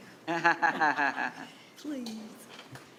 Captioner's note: laughing